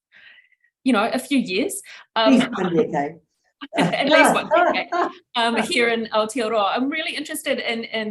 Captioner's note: laughter